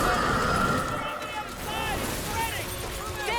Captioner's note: men shouting